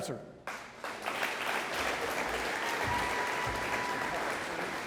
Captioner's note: audience applauding